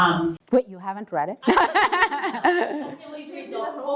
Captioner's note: laugh